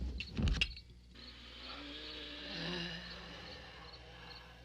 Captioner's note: groaning